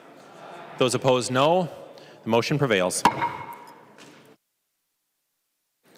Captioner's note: chorus of ayes